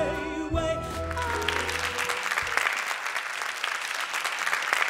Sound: audience applauding

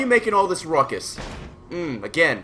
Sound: slam again

